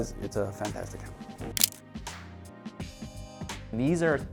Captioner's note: camera shutter clicks